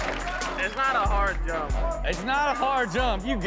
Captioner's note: audience cheers; upbeat hip hop music; group chatters